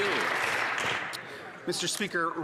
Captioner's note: some Applause